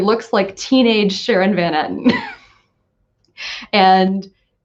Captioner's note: laughs